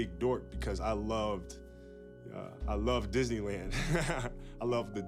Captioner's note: laughs